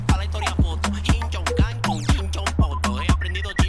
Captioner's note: imitating chinese